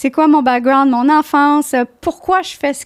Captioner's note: in french